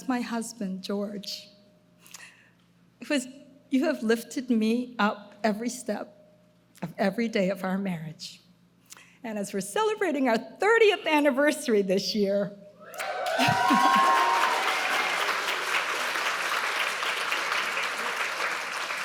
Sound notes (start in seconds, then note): 12.9 audience cheering; 13.4 laughs; 15.6 audience applauding